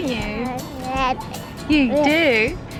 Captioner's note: baby chattering